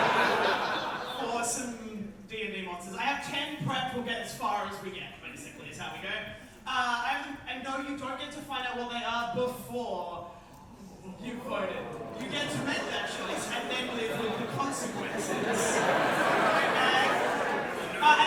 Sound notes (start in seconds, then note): 0.0 audience laughter; 11.4 audience ooooh; 16.9 audience laughter